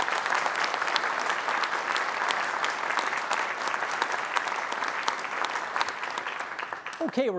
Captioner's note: applause